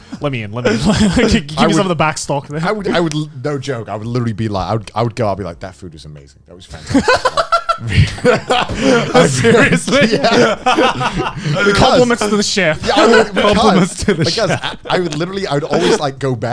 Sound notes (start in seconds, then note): 7.6 laughs; 8.7 men laugh